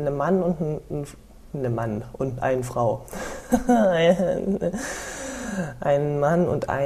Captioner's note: giggling about switched female and male pronouns